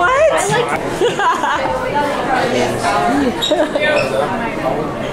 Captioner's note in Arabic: يضحك